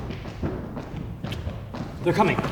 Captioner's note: footsteps entering